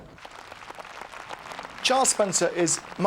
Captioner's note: audience applauds